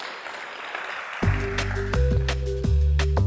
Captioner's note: applause